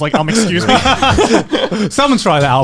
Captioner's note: chuckling